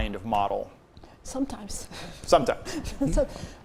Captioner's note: chuckles